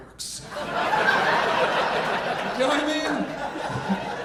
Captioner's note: audience laughing